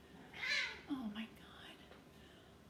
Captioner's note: cats meowing